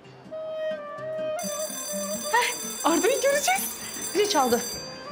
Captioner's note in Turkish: Okul zil sesi